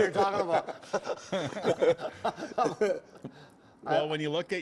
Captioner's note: laughter